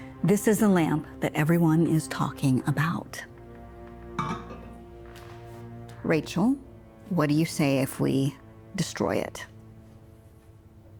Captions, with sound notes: This is the lamp that everyone is talking about. (lamp thuds) Rachel, what do you say if we destroy it?